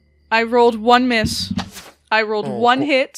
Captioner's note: more ominous dice thumps; arrow flies past